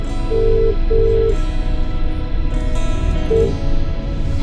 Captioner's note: phone line ringing